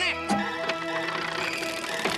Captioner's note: squawk